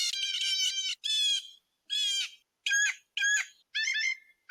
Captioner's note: blue jay chirping